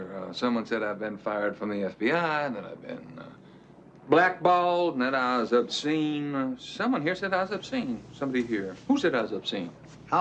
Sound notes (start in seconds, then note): none